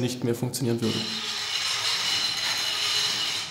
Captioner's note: squeaking